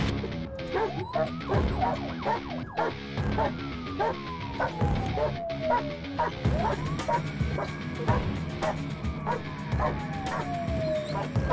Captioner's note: police siren and barking dog